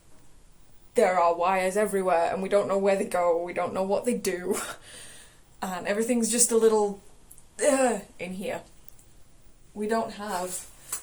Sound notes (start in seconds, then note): none